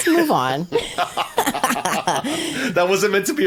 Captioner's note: laughing